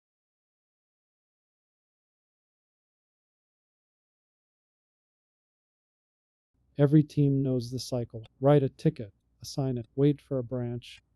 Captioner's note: PAUSE: 0.8s